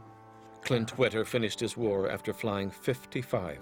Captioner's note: voiceover